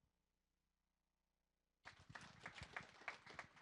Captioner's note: applause